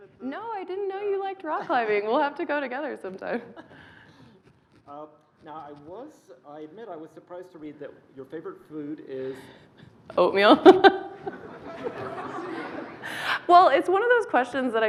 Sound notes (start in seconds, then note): 10.4 laughing